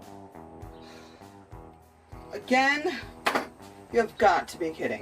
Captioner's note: sighs